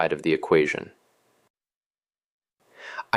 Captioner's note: pause